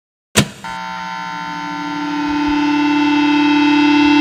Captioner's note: electronic buzzing